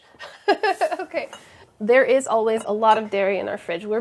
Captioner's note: laughs